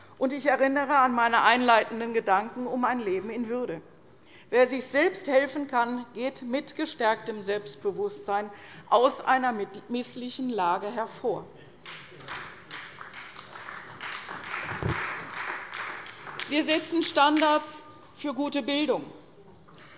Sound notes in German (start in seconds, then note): 11.8 Beifall bei der CDU